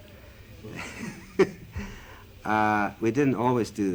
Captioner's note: laughter